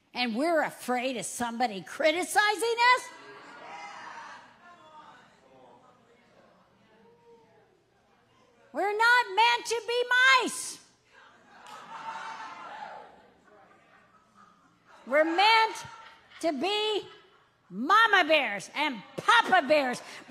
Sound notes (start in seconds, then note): 4.0 audience cheering; 11.6 audience cheering